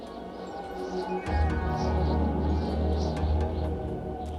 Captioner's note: wind howling